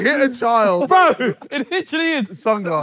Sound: all ohing

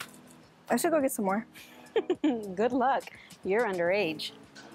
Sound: Jessica laughs

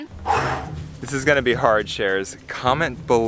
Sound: exhales

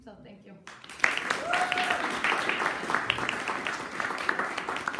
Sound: audience applauding

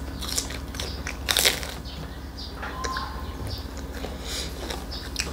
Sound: crunch crunch

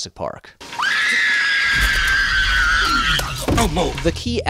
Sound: ear-piercing scream

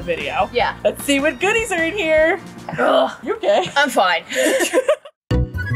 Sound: both laugh

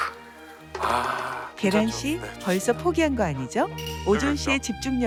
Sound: huge sigh

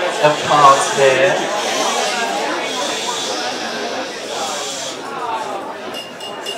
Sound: audience shushing

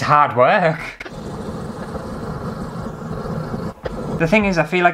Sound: fast Scratchy Sounds

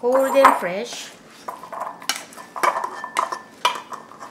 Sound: utensils tapping

